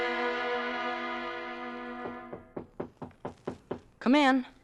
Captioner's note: knocking